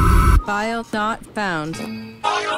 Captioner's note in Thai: เสียงข้อผิดพลาด